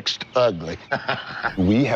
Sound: laughs

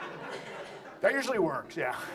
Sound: audience laughs

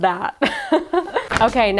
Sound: laughs

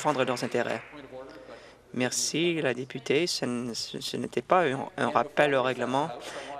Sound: some Applause

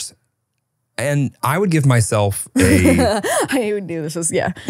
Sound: laughs

